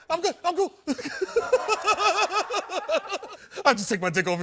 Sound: laughing

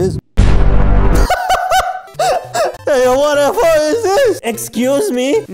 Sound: laughs again

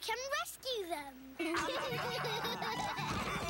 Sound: laughing, giggling

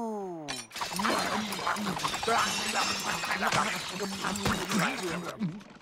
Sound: clattering

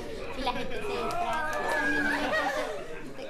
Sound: chatter/laughter

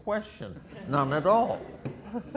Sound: audience laughter

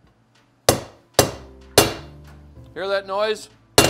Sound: hammer pounding

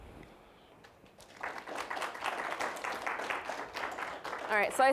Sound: applause

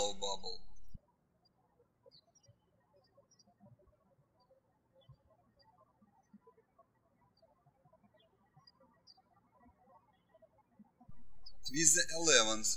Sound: birds chirping

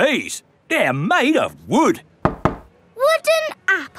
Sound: knocks

